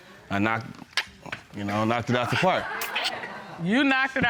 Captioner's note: clicks tongue